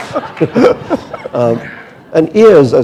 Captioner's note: laughter